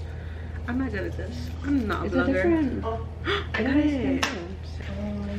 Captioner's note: gasps